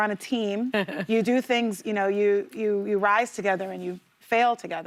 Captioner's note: laughter